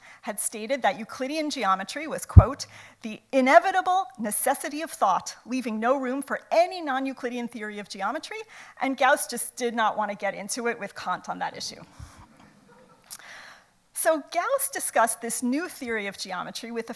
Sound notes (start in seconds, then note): 12.6 audience laughs